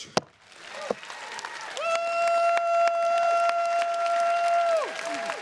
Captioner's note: attendees cheering and clapping